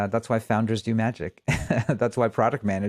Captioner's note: laughs